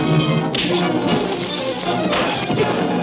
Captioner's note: dramatic music; punch sound; dramatic music continues